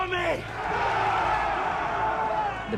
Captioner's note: all shouting